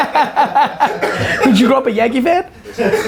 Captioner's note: laughs